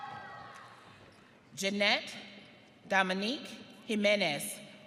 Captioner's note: audience cheering